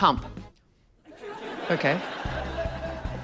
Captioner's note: laughter